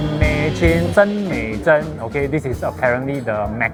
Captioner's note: in chinese